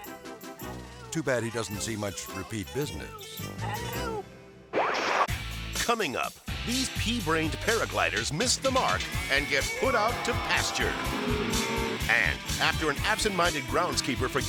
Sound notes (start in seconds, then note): 5.1 screen static; 6.2 rock music; 11.0 cows mooing